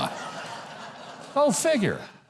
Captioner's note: audience laughing